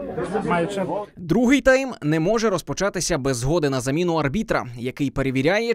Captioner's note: voiceover